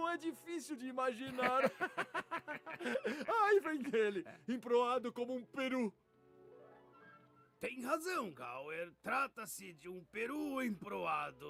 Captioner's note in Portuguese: risadas